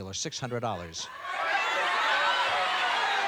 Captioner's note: audience shouting